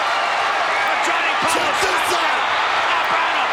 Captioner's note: Macho Man vocalizing